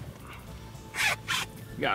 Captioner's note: zipping